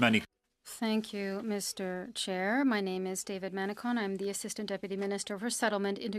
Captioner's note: speaking French